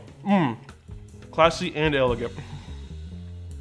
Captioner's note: moans